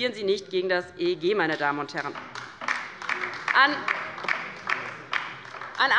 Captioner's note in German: Beifall bei der LINKEN